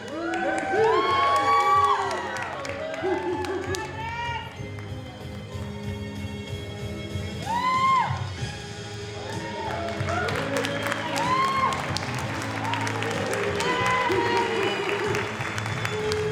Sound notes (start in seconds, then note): 0.0 audience cheering; 9.1 audience applauding; 12.8 soft music continues